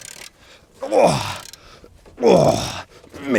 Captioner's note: grunt